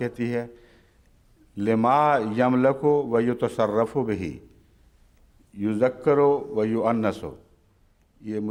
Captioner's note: Arabic